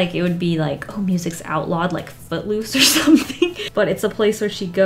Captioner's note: laughs